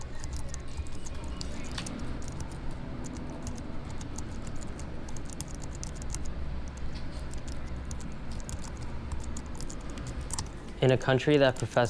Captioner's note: sound of Typing on Keyboard